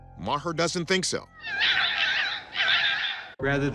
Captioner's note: foxes chirping